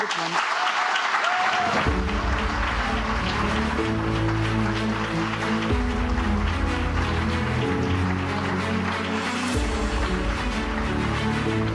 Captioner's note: applause